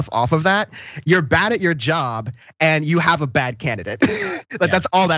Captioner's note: laugh